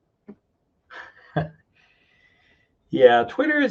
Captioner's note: chuckles